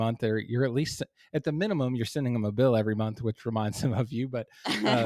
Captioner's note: laugh